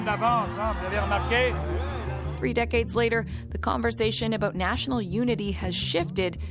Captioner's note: speaking French